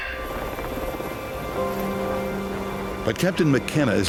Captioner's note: helicopter whirring